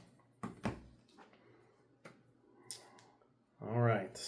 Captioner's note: plastic clunking